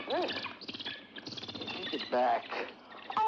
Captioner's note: bird chirps rapidly